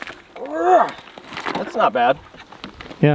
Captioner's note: grunts